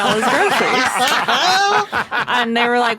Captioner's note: others laugh uproariously